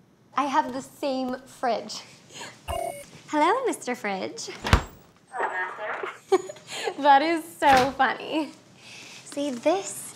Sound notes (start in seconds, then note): 2.7 beep; 6.0 chuckles